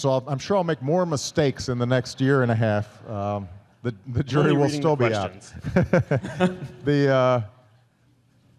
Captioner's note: laughter